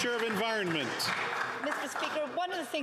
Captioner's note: some Applause